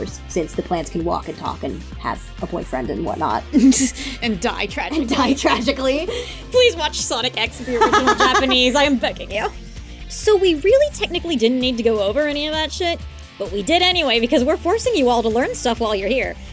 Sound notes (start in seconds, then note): 3.5 laughs; 6.1 wheezing; 7.6 laughs